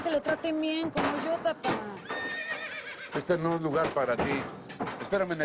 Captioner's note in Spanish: Relinchos